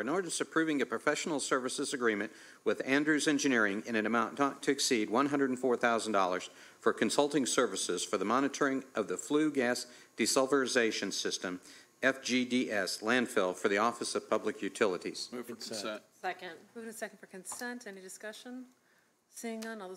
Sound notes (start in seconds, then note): 9.3 read out loud